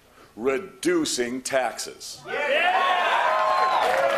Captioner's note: cheers and applause